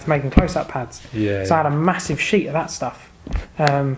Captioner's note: none